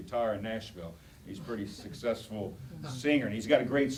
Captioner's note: audience chatter